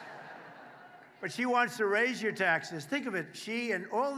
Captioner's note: applause